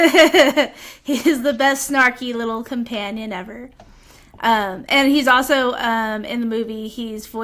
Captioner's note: laughter